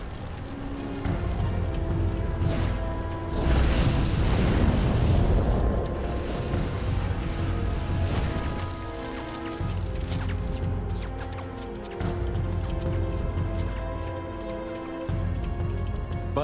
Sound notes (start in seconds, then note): 0.1 fire crackling; 3.3 flamethrower roaring; 8.9 fire crackling; 12.3 somber instrumental music